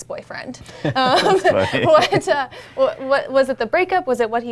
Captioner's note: laughs